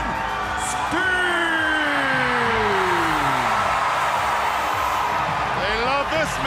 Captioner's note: crowd cheering